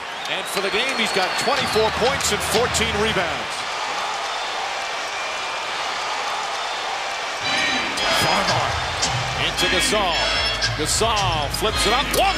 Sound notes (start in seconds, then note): 3.8 crowd cheers; 7.5 crowd